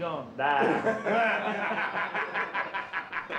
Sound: all laughing

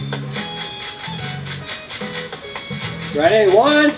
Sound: footsteps

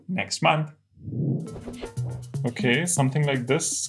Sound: sound effect

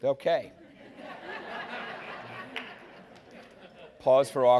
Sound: laughing

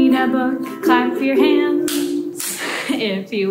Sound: clapping

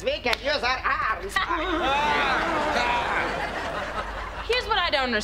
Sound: laughing

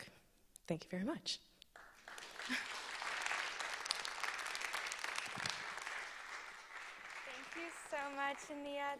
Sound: applause

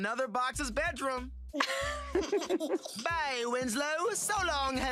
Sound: laughter

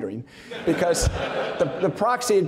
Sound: audience laughing

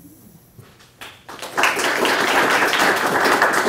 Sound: applause

